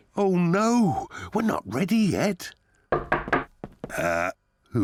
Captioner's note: knock at door